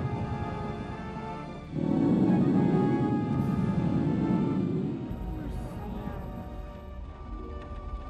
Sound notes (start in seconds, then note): 2.0 monster roars in triumph over pointless sacrifice